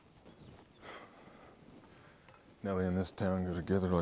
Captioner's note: sighs